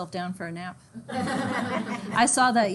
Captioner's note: students laugh